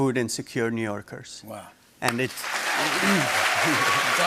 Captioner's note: cheers and applause